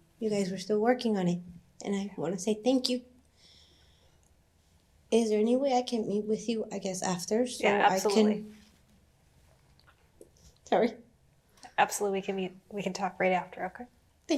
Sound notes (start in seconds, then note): 10.5 voice breaking